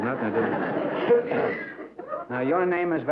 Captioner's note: laughter